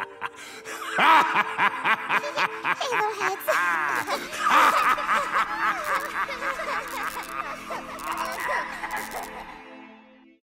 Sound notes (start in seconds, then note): 1.6 nervous laugh; 4.4 laughter continues